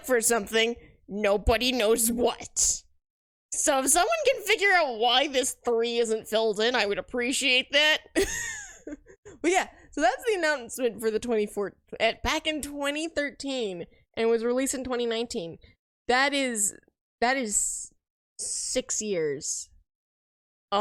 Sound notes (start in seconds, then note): 8.6 laughs